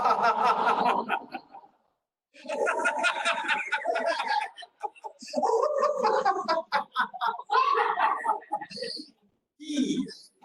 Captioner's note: laughter